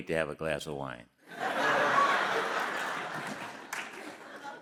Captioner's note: all laughing